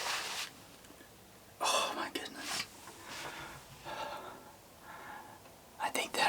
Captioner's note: whispering